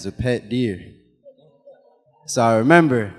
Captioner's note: audience laughing